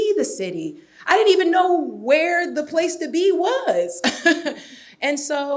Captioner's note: laughs